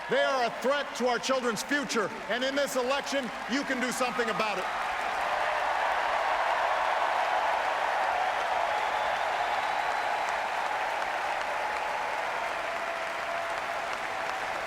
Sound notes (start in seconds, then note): 10.7 applause